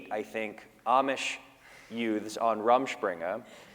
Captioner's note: none